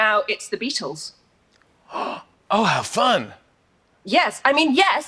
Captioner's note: gasps